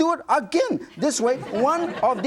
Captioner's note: audience chuckling